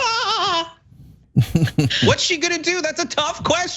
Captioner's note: laugh